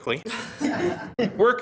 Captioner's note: members laughs